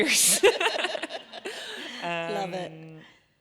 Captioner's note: both laughing